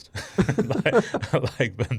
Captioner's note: both laughing